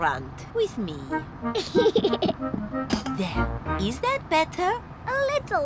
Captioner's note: giggles